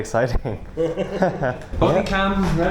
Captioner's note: laughs